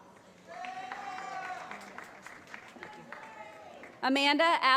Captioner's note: applause